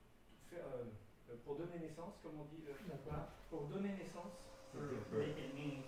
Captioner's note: speaking french